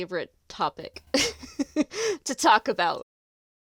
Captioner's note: laughs